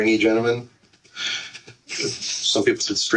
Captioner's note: busy hospital